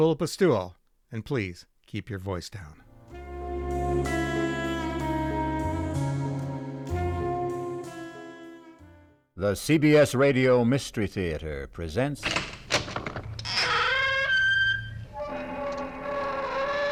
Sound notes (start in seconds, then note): 12.2 door creaking open